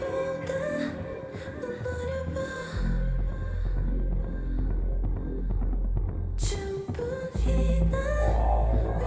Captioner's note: humming; sings in Korean